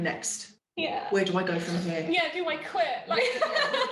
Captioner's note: laughing